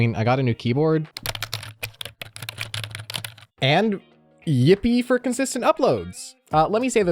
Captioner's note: keyboard sounds